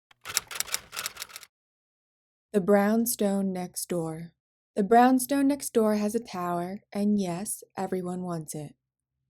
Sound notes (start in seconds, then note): 0.1 typing